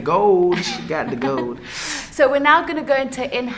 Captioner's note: laughs